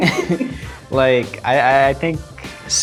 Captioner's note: laughter